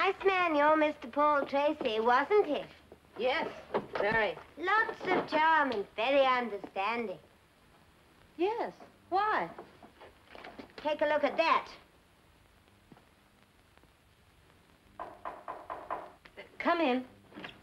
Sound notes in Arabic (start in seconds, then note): 15.0 طرق الباب